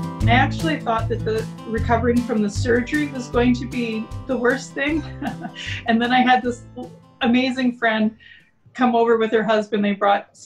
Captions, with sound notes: I actually thought that recovering from the surgery was going to be the worst thing. [Laughs] And then I had this amazing friend come over with her husband. They brought